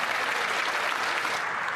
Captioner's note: cheering and Applause